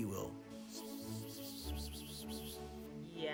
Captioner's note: whispering